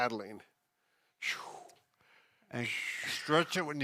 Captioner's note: whooshes